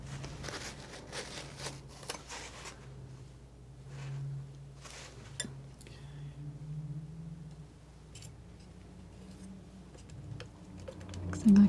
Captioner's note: scratching